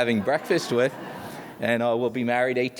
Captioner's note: audience laughs